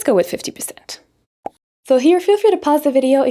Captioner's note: bubble pops